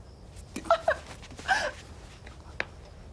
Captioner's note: cries